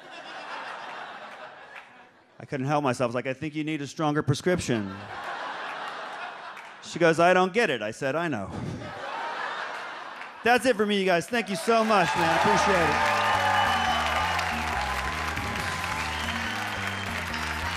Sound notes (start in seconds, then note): 0.0 audience laughs; 4.6 audience laughs; 8.5 audience laughs; 13.7 audience cheers and applauds